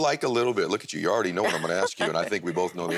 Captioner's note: laughs